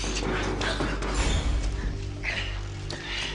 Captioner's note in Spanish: Toques en la puerta